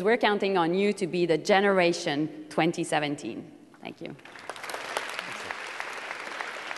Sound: applause

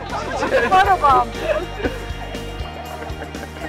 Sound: laughter

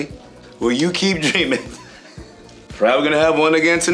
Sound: chuckling

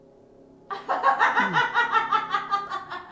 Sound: laughs

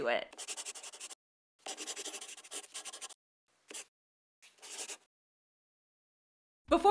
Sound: the sound of a pen scratching. LOGO

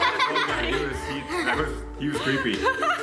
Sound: children laughing

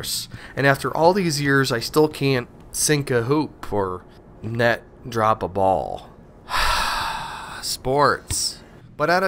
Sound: sigh

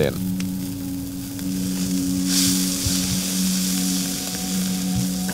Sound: food sizzling

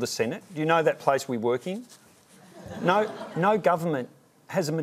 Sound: laughter

